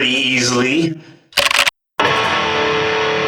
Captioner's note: keyboard typing sounds